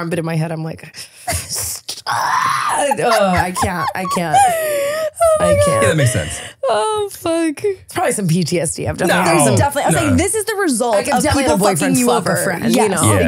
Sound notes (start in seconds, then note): 5.4 laughing